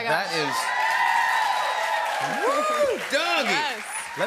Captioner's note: cheers and applause